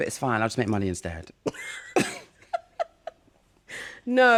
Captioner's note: laughter